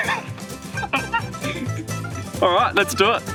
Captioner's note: laughter